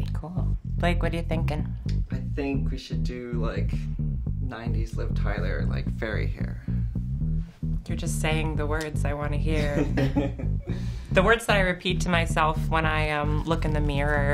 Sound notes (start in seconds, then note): 9.6 chuckles